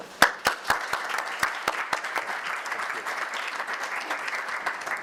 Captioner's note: audience applause